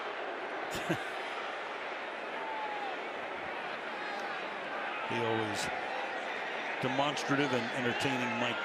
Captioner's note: chuckles